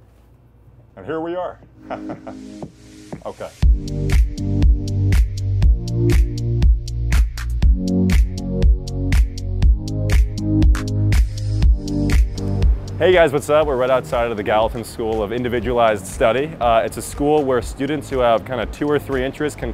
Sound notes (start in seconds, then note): 1.8 chuckles; 4.2 smooth techno-pop music